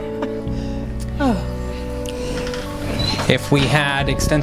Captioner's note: laughing; sighing